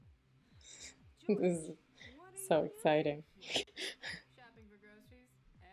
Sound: giggles

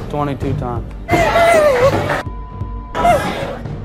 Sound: cries

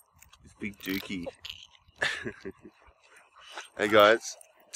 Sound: laughing

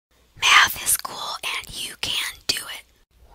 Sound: whispering

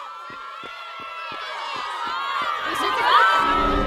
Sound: girls screaming

